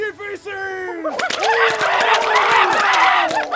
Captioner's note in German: Lautes Geschrei